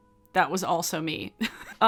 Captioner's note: chuckles